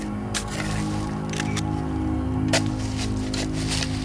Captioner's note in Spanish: Clic de la cámara